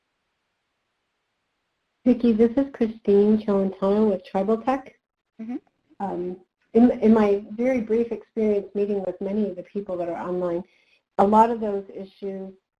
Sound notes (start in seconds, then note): 2.0 static